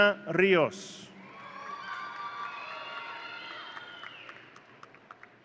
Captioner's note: audience cheering